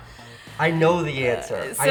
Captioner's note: inhales deeply